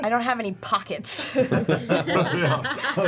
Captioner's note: laughter